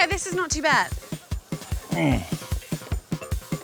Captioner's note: groans